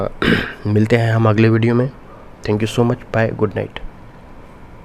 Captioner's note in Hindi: गला साफ़ करने की आवाज़